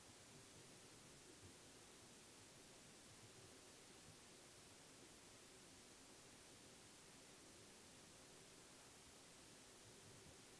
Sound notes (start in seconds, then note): none